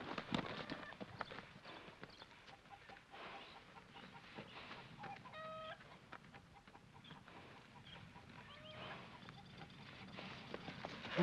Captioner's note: chickens cluck